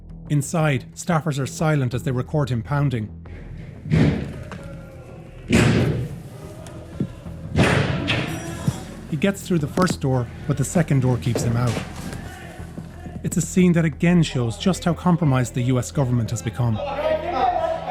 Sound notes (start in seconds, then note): 5.4 loud banging